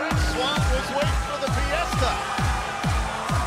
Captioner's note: crowd cheering